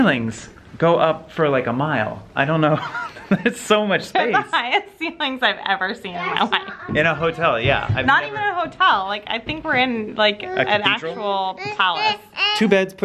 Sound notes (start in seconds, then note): 6.4 laughs